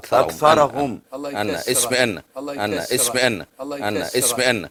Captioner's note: debator whispers to himself